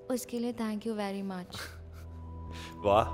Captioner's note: Raghu chuckles